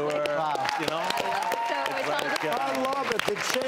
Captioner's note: applause